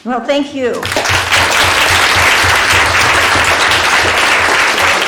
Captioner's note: applause